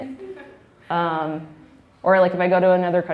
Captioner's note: laughing